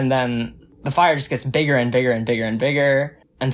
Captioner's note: none